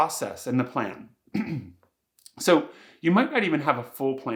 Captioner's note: coughs